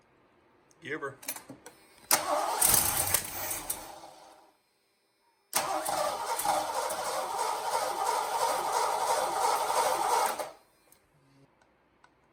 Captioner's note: engine